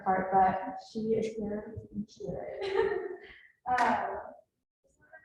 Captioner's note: laughs